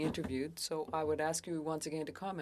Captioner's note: speaking French